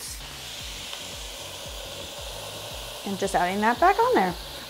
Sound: pan sizzles

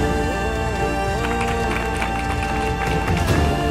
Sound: clapping

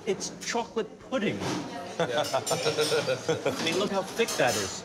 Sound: laughs

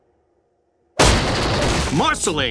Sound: wall crashing

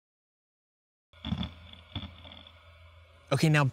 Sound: grinding

